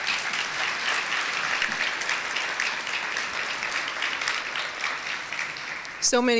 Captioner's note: applause